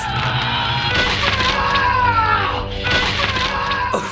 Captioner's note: man 2 yells victoriously; laughing